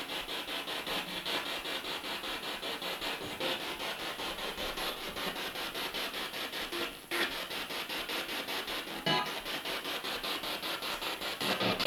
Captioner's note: sound of the Spirit Box in the background